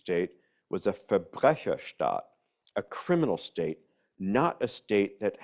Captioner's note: speaks in foreign language